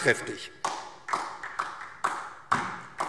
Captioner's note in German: Beifall